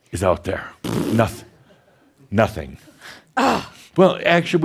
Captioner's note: blows raspberries